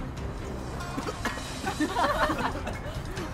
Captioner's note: coughing; laughing